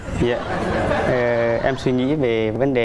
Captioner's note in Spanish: risas